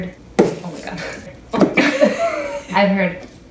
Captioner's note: both laugh